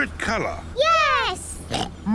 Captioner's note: oinks